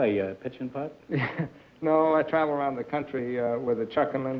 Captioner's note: chuckles